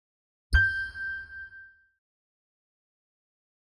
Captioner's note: logo chiming